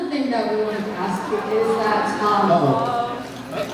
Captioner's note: annoyed murmurs